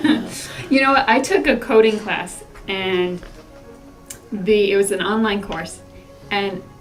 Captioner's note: laugh